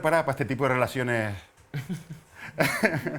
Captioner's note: laughs